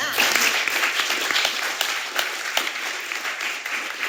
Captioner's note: audience applauding